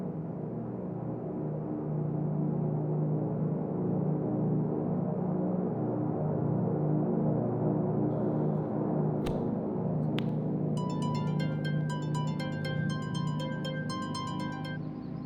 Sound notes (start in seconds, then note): 10.8 alarm clock